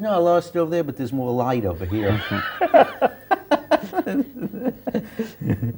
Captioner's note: laughter